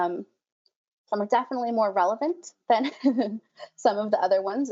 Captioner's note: laughs loudly